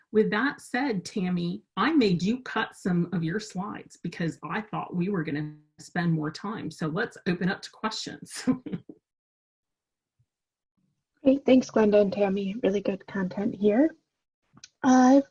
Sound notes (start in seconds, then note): 8.4 chuckles